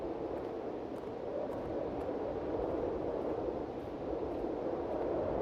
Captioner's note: wind whistling continues